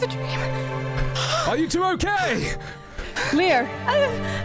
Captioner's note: yelling